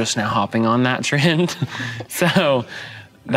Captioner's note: giggling